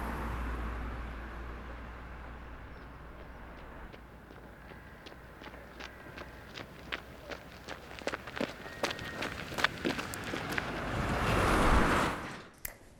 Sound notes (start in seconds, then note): 3.2 footsteps rustling; 9.6 car whooshing